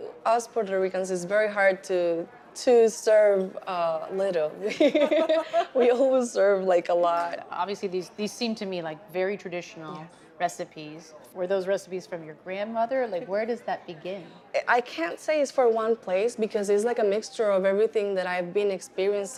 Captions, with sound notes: -As Puerto Ricans, it's very hard to serve little. [ Both laugh ] We always serve, like, a lot. -Obviously, these seem to me like very traditional recipes. Were those recipes from your grandmother? Like, where does that begin? -I can't say it's from one place because it is like a mixture of everything that I've been experiencing